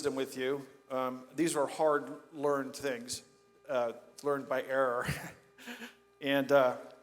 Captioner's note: laughs